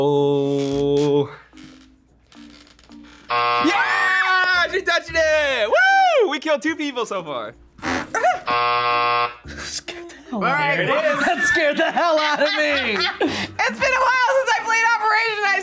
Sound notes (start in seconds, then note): 3.1 buzzer rings; 3.6 screams; 7.9 yelps; 8.3 buzzer rings; 10.7 laughs